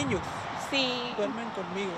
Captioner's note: speaking in Spanish